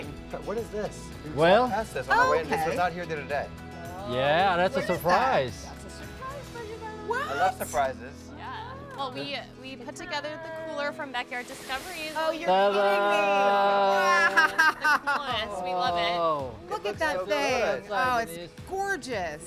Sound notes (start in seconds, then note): 12.8 laughs